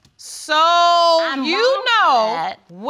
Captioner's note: none